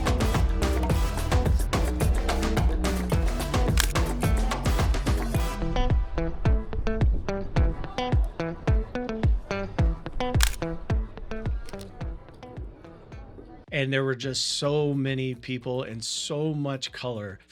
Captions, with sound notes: (upbeat music) (camera clicks) (camera clicks) And there were just so many people in so much color